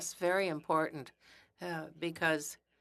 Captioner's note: speaking French